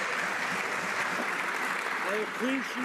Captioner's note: some Applause